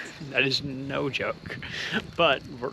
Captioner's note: cameraman chuckles